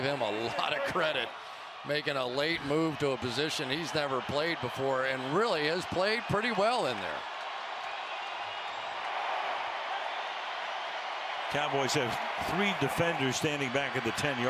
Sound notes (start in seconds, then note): 8.1 cheering